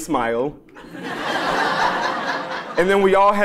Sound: laugh

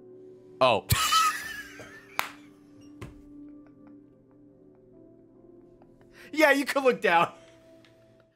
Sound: laughs

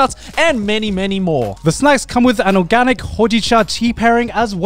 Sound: speaks Japanese

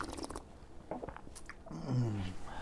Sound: gulp

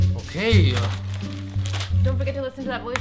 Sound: newspaper rumpling

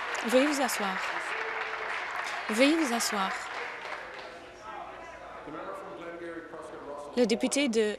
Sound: applause

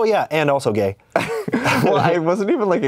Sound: laughs

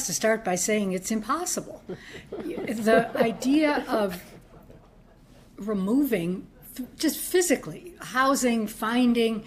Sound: laughter

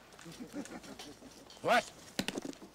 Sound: laughing

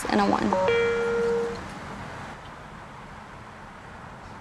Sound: phone chimes

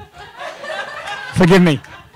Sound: laughing

